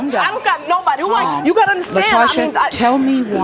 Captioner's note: overlapping chatter